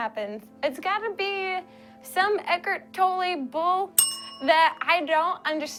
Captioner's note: rings bell